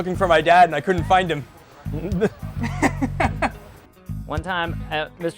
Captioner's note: laughter